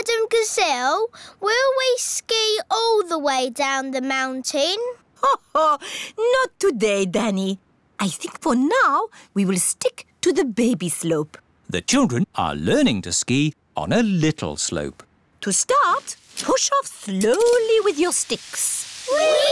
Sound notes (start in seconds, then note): 5.6 laughs